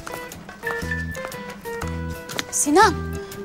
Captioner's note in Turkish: Telefon mesaj sesi